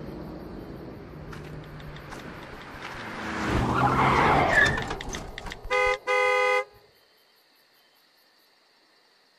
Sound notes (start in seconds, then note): 4.0 screeching of tires; 5.6 honking of automobile horn